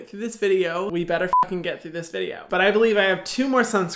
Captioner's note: beeping